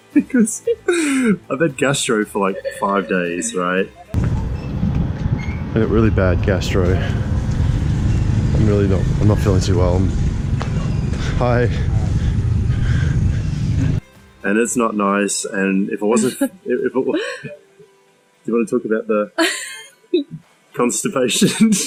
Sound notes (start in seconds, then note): 16.1 laughs